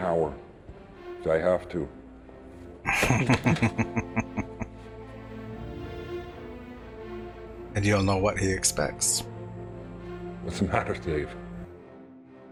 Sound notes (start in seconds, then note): 2.8 chuckling